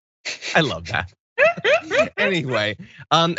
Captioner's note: laugh